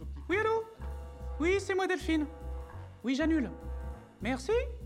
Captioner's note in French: voix aigüe